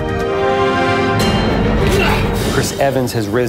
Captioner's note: grunts